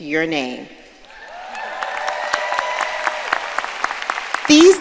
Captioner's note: audience cheering and applauding